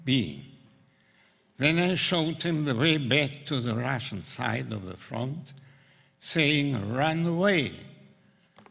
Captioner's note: russian